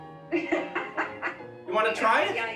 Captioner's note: laughing